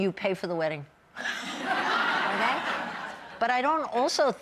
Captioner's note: laughing